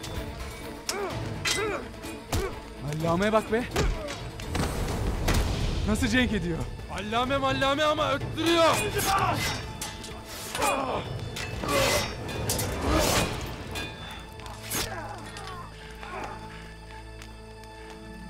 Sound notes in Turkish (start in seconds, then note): 0.0 Müzik - Hareketli; 8.4 Kılıç sesleri